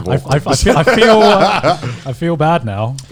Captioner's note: laughing